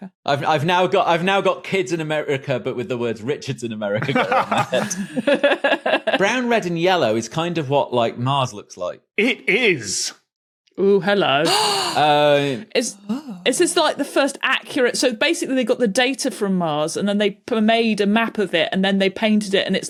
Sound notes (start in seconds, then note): 4.0 laugh; 11.4 gasps